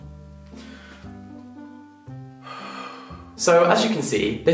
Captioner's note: sighing